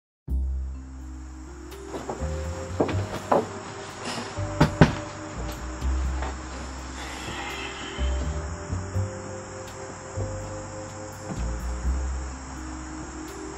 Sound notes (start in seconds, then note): 4.6 knocking; 7.3 plucky music